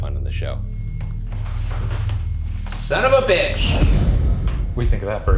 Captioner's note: REM-Pod beeping